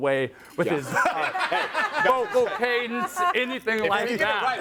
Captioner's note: everyone laughs